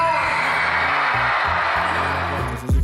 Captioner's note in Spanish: Gritos